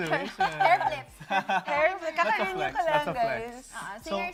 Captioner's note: laughs